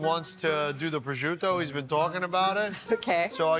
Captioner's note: laughs